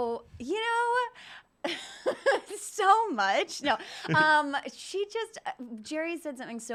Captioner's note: laughs